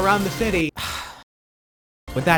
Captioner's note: sigh